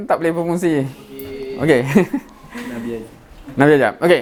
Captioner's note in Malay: ketawa